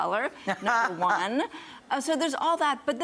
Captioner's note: laughs